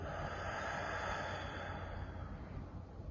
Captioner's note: exhales